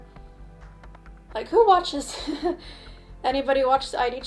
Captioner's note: laughs